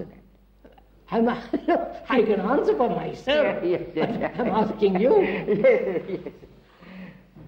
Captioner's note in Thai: หัวเราะ